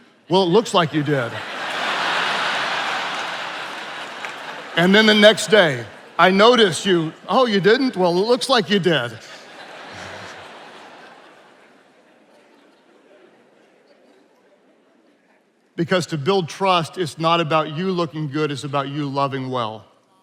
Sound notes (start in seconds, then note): 1.5 attendees laughing; 9.3 attendees laughing